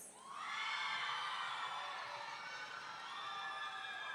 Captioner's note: audience cheering